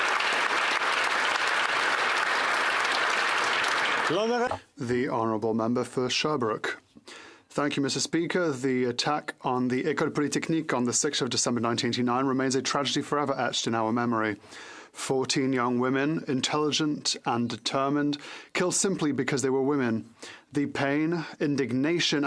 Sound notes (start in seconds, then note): 3.5 applause